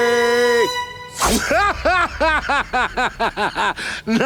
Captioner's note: laughing